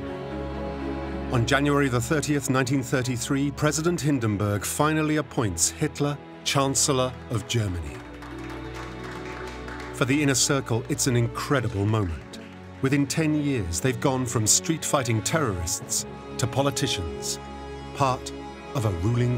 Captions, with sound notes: On January 30th 1933, President Hindenburg finally appoints Hitler Chancellor of Germany. [applause] For the inner circle, it's an incredible moment. Within ten years, they've gone from street-fighting terrorists to politicians, part of a ruling coalition.